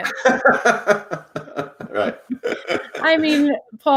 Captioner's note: laughs